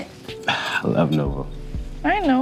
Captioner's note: sighs